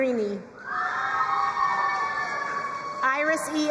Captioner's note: crowd cheering and applauding